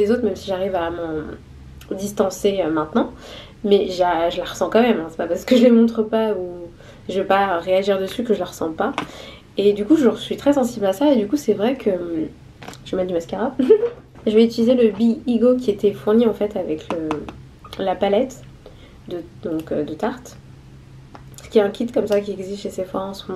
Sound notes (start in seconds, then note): 13.6 laughs